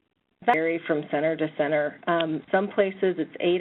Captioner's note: voiceover